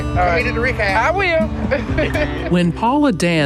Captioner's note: laughs